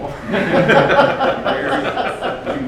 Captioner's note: laughing